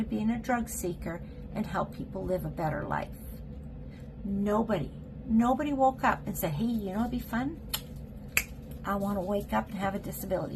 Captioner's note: snap